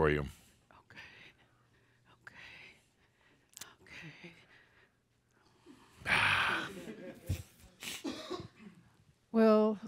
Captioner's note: whispers